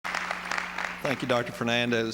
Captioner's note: applause